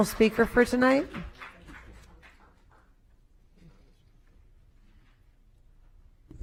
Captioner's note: applause